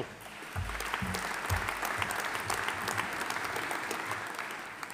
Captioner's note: audience applauding